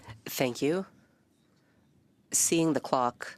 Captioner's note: speaking French